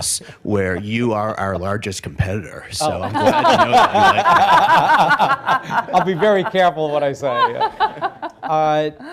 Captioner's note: laughter; laughter